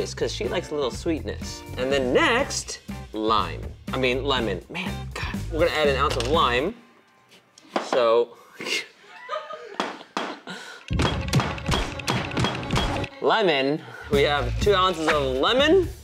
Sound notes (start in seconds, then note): 11.0 chopping